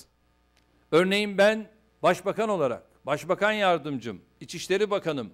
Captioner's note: non-english speech